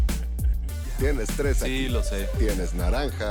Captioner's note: laughs